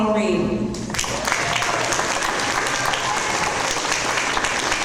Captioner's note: audience applause